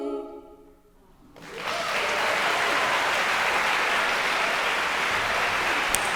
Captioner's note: audience cheering and applauding